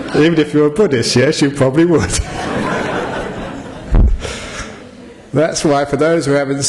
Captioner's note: laughter